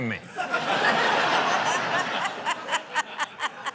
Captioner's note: laughter